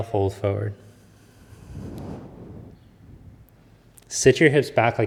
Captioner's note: exhales deeply